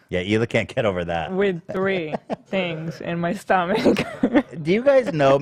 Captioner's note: laughs